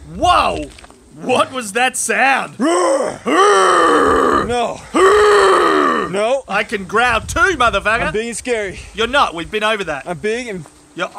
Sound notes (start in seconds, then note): 2.6 growling Louder; 2.6 growling